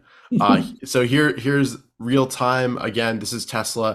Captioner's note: chuckles